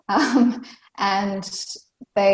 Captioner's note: laughs